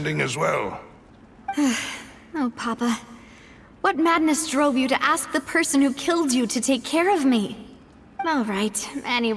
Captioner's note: sigh